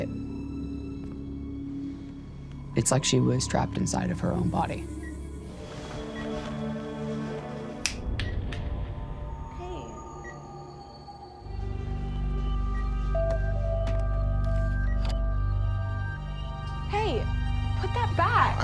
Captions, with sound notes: [ominous music] It's like she was trapped inside of her own body. [beeping] [ominous music] Hey. [ominous music] [beeping] Hey, put that back.